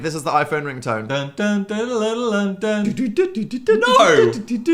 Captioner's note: Phil vocalizes